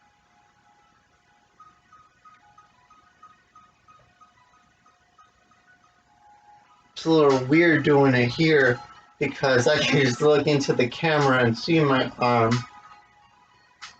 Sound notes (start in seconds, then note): 0.0 upbeat music continues; 9.6 chuckles